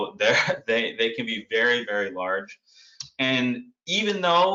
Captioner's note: laughs